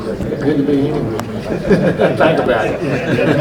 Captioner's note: men laughing; everyone laughing